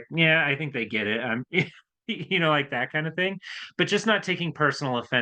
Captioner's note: chuckles